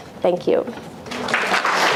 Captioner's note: applause